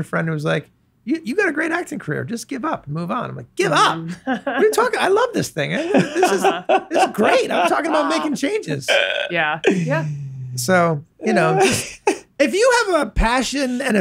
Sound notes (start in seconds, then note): 3.8 laughs; 5.7 Glenn laughs; 11.2 Glenn laughs